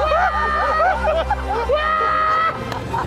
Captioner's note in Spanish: gritan